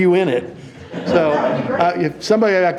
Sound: audience laughing

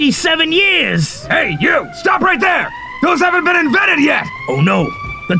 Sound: sirens

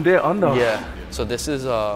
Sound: screen whooshes

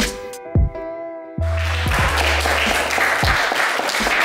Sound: applause

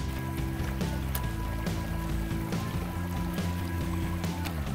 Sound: stream trickling

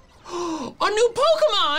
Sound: gasps

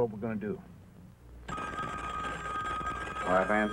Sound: phone ringing

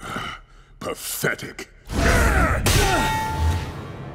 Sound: grunting, thudding

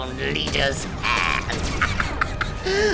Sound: cackles

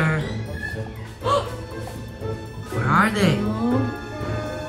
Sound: gasps

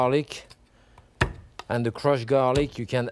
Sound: knife thumping

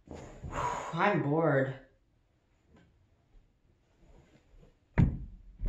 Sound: breaths

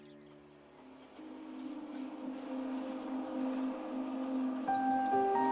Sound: cicadas chirp

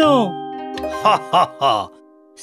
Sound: laughs

